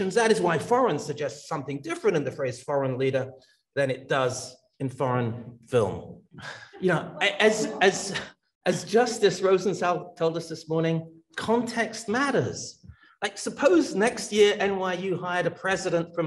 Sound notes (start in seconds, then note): 7.1 attendee laughs